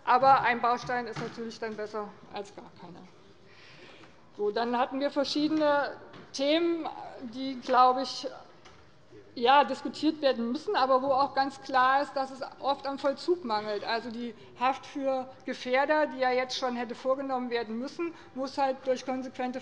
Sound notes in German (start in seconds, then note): none